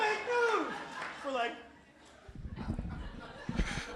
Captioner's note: laughter